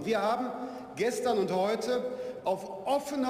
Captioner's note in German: none